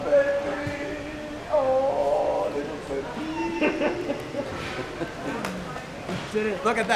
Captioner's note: man laughing